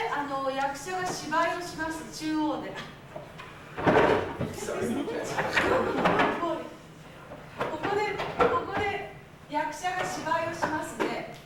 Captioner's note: speaking Japanes